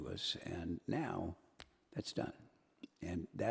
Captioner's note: snaps